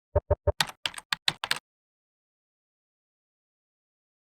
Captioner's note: keyboard typing